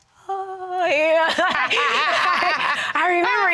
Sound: laughing

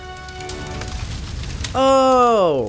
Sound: upbeat instrumental music; fire blazing

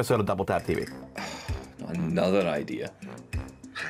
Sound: he sighs; laughs

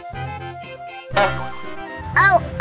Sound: comedic honk

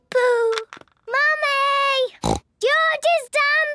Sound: snorts

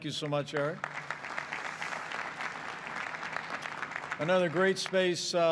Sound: applause

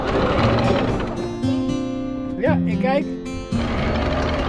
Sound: anchor lifting; relaxing music

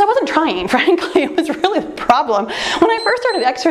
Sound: laughing; timer beeps

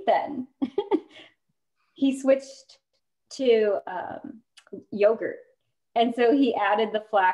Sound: laughter

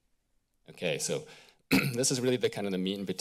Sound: clears throat

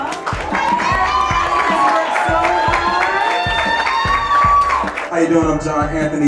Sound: cheers and applause

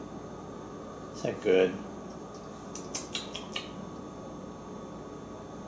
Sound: makes smacking sounds

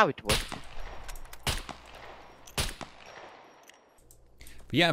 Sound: gunshots

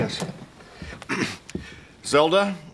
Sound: clears throat

